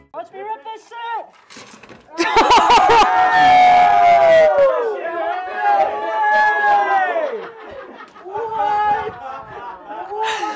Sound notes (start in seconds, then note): 2.1 climbers cheering; 2.2 woman laughing; 5.7 climbers exclaiming